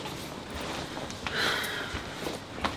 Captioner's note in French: Soupire